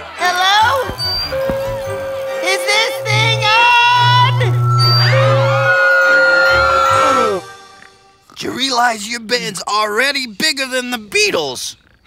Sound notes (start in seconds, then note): 5.6 feedback sounding; 6.6 screaming